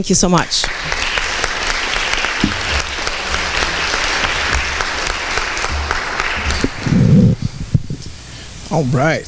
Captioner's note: applause